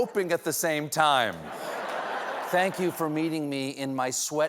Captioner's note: laughter